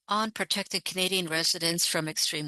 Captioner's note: speaking French